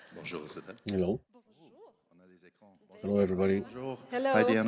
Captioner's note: speaking French